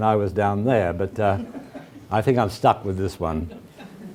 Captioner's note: laugh